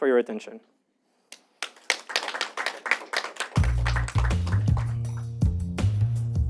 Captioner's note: applause